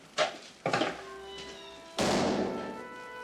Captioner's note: door closes